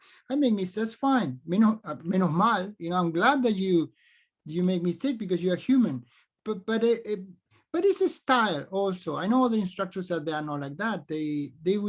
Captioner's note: speaks spanish